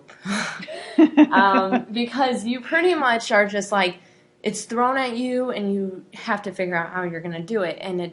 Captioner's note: laughing